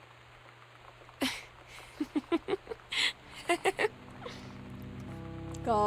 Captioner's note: Sam Laughs